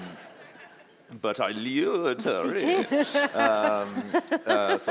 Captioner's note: laughter; ann-marie laughs